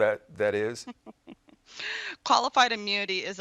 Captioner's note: chuckles